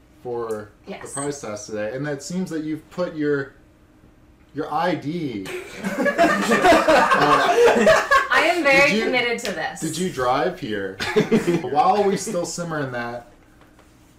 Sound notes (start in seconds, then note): 5.4 laughter